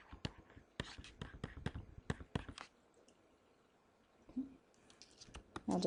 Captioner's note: chalk scratching on board